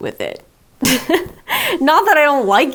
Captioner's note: chuckles